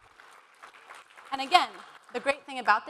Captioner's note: applause